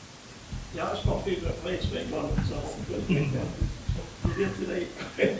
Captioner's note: indistinct chatter